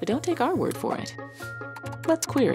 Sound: keyboard clacking

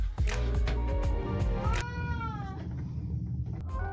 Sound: upbeat music; cat meows

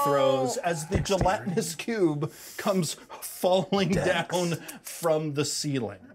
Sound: chuckles

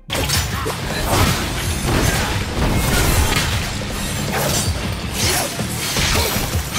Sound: weapons clashing; upbeat rock music

